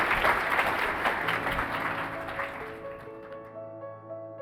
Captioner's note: crowd applauding